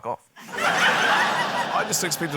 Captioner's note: laughter